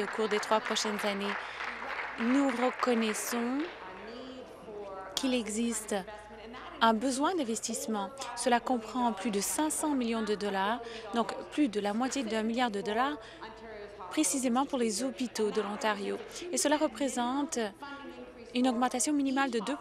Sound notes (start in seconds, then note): 3.4 applause